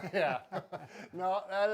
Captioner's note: laugh